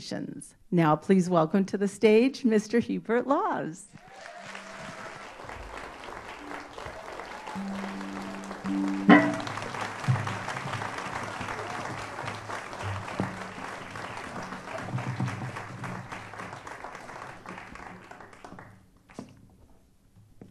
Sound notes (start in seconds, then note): 8.8 applause